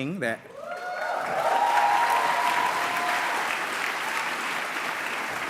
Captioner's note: cheering